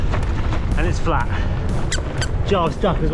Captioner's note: duck squeak